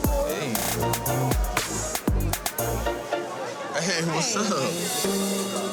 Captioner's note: overlapping chatter; soft ambient music